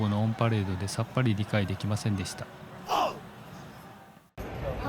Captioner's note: crying